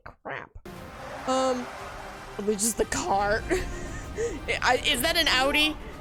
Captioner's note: laughs